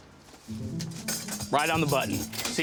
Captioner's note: cash register sound